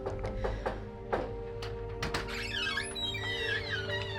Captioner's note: door knocking; door hinge creaking; gentle music